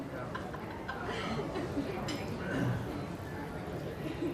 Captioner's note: laughter and silverware clattering